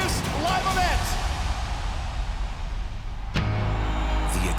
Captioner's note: crowd cheering